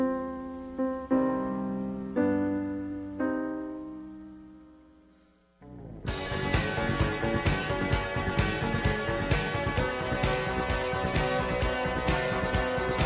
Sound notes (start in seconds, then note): 5.7 foreign language; 6.0 upbeat music